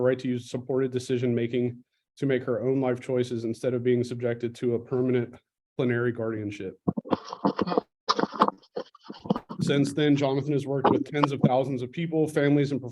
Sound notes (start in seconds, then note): 6.8 audio cracking